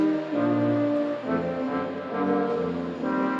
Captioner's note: none